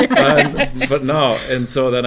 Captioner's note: laugh